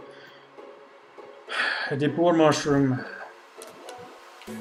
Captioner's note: sighs